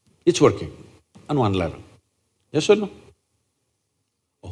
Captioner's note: none